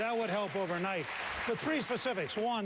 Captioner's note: applause